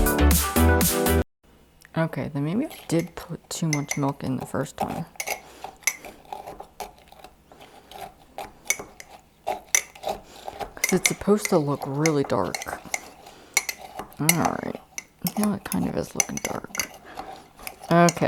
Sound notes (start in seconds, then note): 5.4 Oreos crushing and spoon hitting the mug